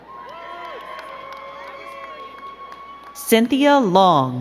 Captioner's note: crowd cheering and clapping